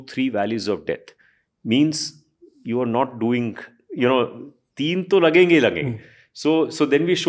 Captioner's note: speaks in Hindi